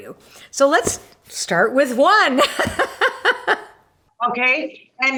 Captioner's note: laughs